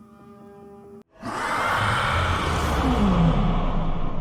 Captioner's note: volatile roar